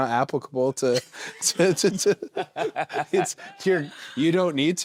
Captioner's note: both laughing